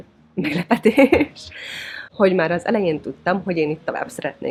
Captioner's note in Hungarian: nevetés